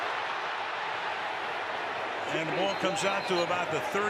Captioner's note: cheering